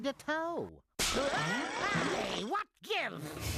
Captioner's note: screams